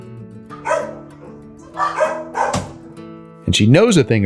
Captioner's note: dog barks